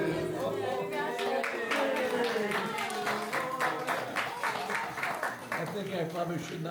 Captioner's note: applause